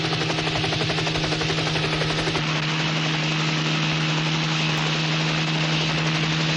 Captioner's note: helicopter sound